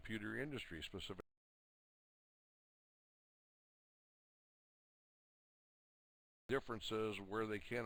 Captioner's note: audio drops